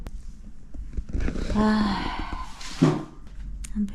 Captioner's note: long sigh lol